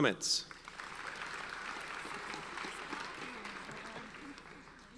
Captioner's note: audience applauds